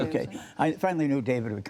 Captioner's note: laughter